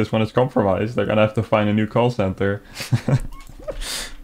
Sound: giggles

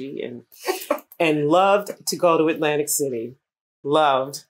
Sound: laughter

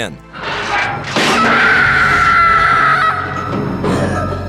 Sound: screams

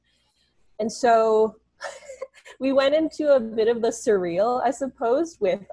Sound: chuckles

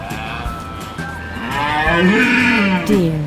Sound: deer sound

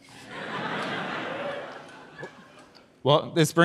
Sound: audience laughs and whoops

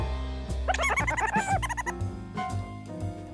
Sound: laughter; jazz music

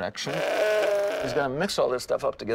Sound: goats bleating

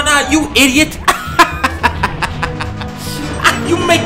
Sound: laughs

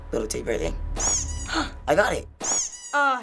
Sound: gasps; doll squeaks

